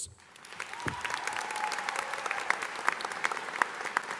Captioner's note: audience applauding